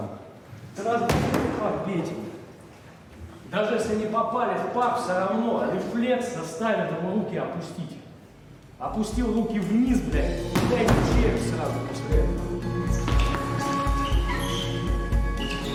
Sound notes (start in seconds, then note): 0.9 foot slamming; 10.5 fist thudding; 13.0 tense music